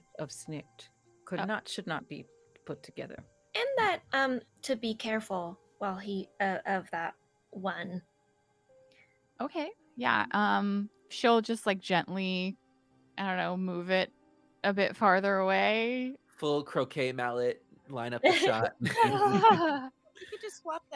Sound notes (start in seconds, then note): 18.0 laughing